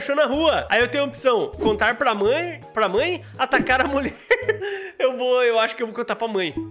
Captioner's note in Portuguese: risos